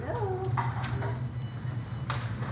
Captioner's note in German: Piepsen